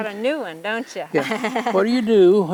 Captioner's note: laughs